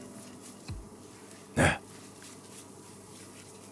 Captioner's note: laughs